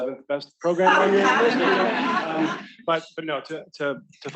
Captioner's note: students laughing